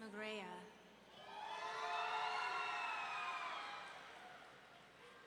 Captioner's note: audience cheering